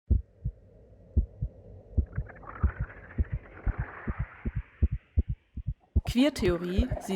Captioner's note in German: Herzschlag – langsam schneller werdend